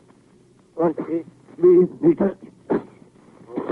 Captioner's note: coughing